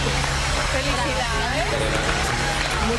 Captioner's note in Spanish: aplausos